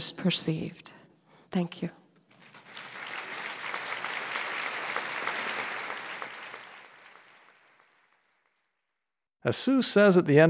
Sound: applause

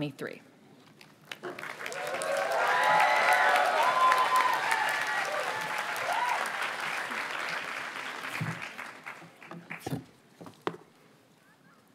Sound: audience cheers and applauds

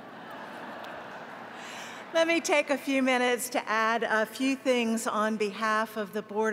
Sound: laughter

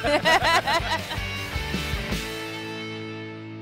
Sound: laughter

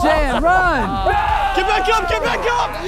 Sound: contestants cheering

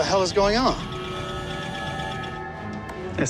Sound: beeping

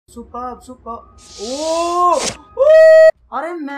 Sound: screams

